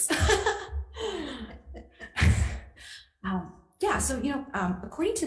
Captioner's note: nervous laughter